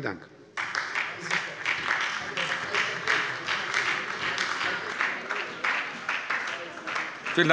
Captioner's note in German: Beifall bei der SPD